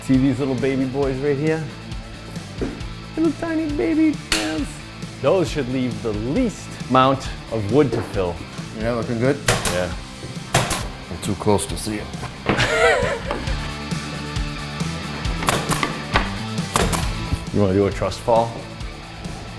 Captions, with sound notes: See these little baby boys right here? (with a high voice) Little tiny baby nails. Those should leave the least amount of wood to fill. - Yeah, looking good. - Yeah. - I'm too close to see it. (rock music) - Do you want to do a trust fall?